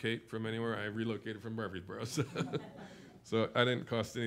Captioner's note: laughs